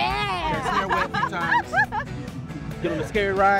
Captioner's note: laughter